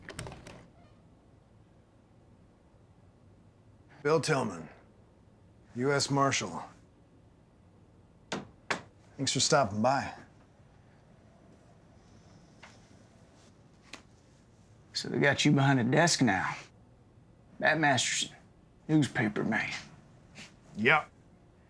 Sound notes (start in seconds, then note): 0.2 door opens; 8.2 door closes